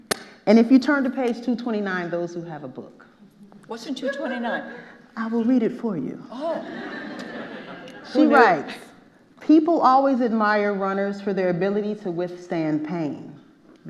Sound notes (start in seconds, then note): 6.4 audience laughing